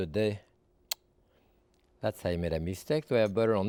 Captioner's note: sucks teeth